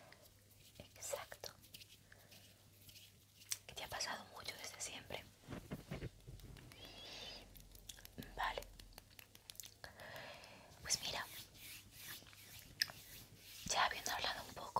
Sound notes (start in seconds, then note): 1.8 sounds of hands